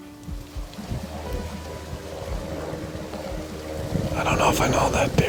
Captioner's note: plane engine roaring